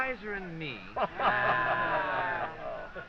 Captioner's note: all exclaiming